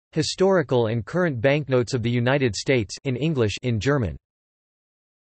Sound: in German

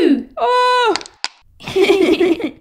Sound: crack!

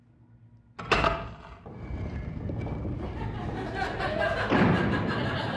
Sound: sound of a hidden door unlocking, rotating and closing

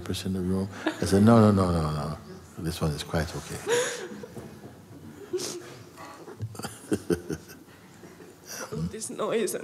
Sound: laughter

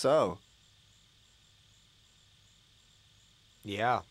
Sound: awkward silence

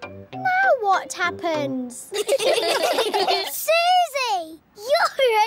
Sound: all giggling

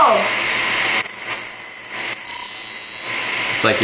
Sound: electrical grinding noises

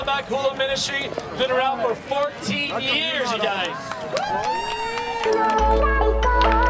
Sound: cheers; electronic dance music

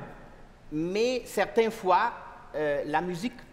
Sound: speaking french

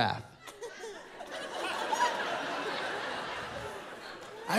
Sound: laughter

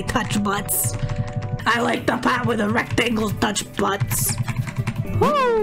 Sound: in a gritty accent

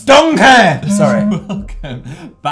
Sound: giggles

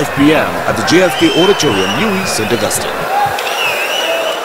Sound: wild applause and cheering for 22 seconds

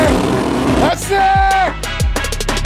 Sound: shouts; Latin beat

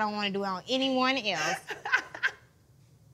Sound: laughs

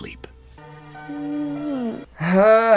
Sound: sad music; goat sighing

